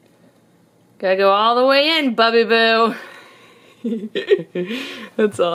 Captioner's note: laughing